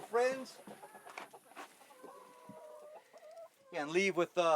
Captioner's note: chicken sounds